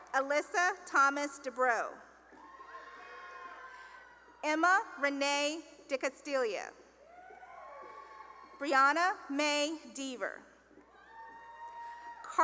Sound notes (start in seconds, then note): 2.3 cheering; 7.0 cheering; 11.0 cheering